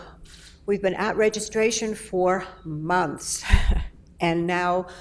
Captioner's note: chuckles